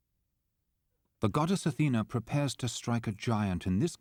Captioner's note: voiceover